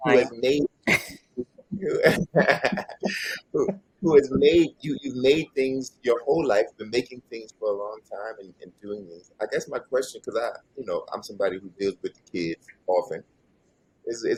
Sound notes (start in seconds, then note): 1.8 both laugh